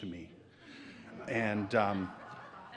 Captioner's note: audience laughs